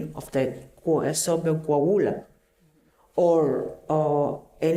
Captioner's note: speaking spanish